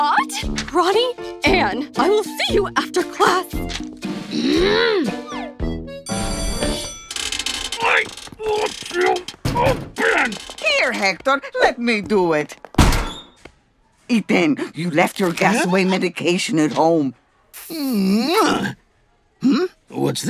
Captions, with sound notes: Ronnie Anne! I will see you after class. Grrr! Here, Hector, let me do it. [spanish] You left your gas away medication at home. Muah. Hmm? What's this?